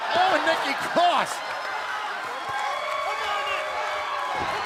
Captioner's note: crowd cheering